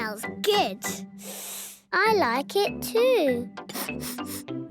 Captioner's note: sniffing; sniffs